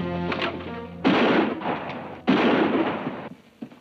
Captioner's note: gun bangs